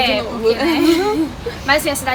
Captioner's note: laugh